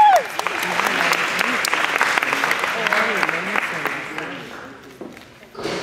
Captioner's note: clapping, cheering